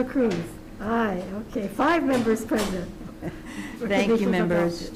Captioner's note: laughs